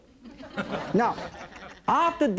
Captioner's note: audience laughs